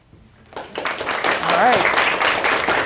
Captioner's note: applause